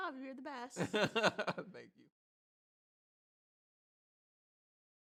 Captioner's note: laughs